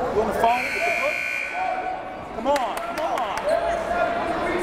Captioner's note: timer buzzes